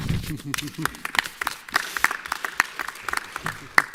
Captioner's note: applause